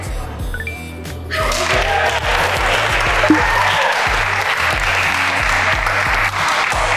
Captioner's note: electronics ring; group applauds